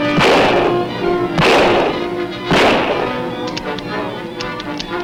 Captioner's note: guns bang; suspenseful orchestral music; gun clicks